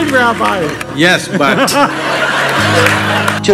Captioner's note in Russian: смех